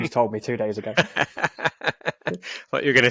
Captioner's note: both laughing